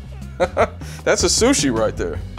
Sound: laughs

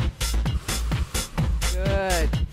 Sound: energetic music; exhales

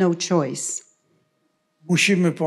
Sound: foreign language

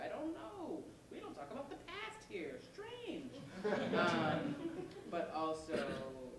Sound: laughter

